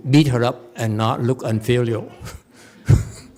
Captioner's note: laughs